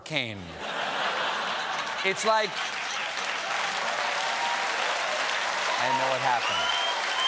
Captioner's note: laughter; applause; cheers